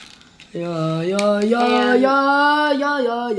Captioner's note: humming